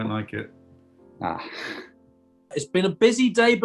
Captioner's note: chuckles